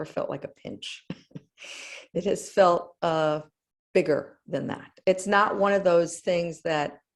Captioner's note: laugh